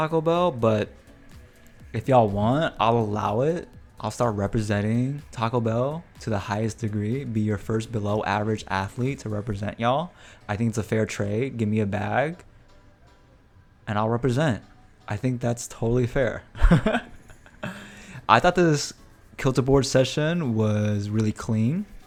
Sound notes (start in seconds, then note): 16.5 laughs